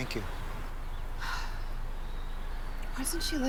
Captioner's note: Laura sighs